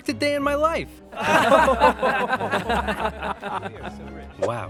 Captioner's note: laughter